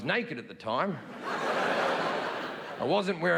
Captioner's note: audience laughing